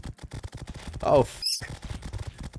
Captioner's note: squeak